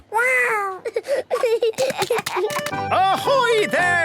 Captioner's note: giggling